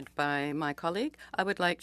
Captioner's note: speaking French